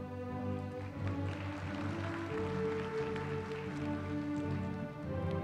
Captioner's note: applause